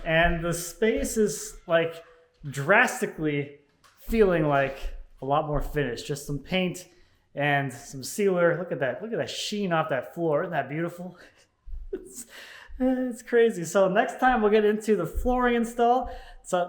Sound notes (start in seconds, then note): 11.9 laughs